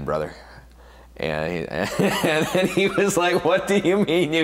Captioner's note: laughs